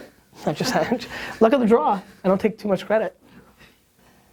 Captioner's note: laughs